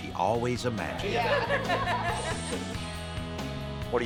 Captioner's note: laughter